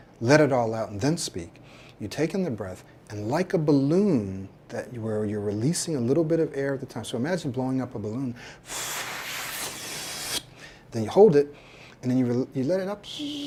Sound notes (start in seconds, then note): 8.6 blowing; 13.2 whistling and hissing